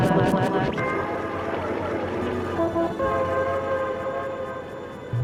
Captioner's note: traffic buzzing and beeping